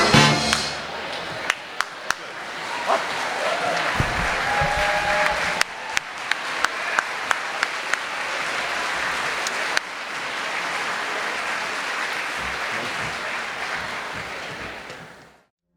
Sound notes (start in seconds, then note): 2.8 applause